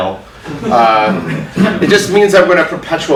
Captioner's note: audience laughs